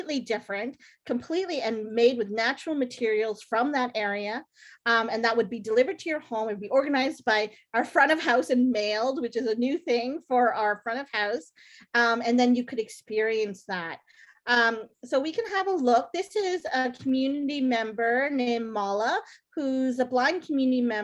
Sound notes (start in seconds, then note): none